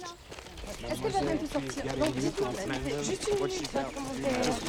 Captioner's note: speaking french